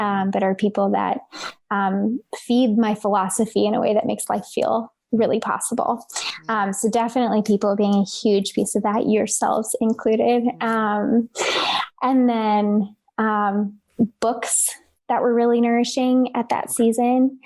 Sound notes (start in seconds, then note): none